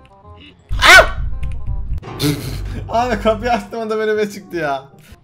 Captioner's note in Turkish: Çığlık Sesi